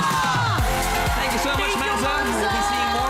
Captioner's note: applause